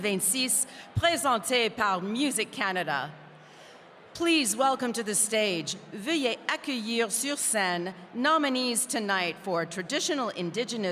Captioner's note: speaking french